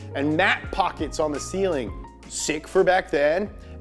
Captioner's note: none